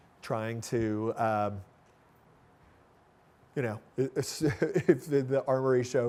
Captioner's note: laughing